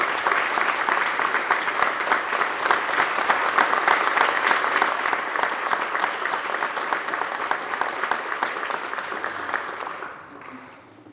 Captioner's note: applause